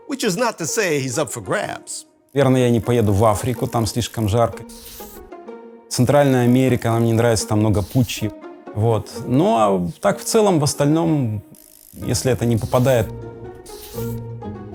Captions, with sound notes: Which is not to say he’s up for grabs. [SPEAKING RUSSIAN]